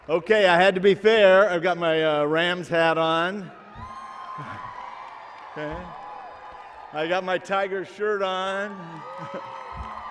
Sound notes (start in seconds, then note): 2.9 cheering